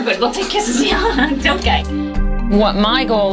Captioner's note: laughs